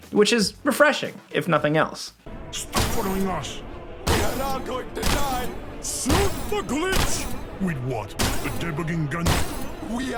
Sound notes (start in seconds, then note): 5.0 screen thudding and cracking